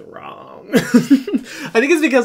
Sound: laughing

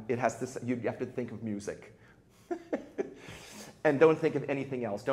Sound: chuckles

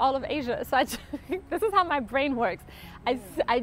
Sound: laughs

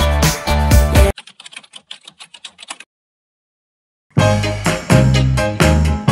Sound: keyboard typing sound

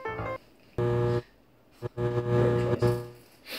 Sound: light buzzes

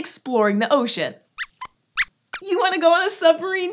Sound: squeaks squeaks

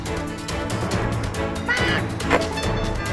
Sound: bird yelling; bird vocalizes; keyboard tap

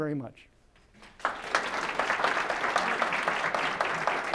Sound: applause

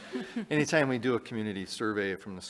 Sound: chuckling

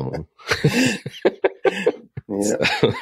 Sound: laughing

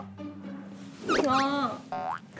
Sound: whispers

